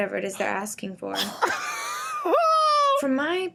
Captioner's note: everyone laughs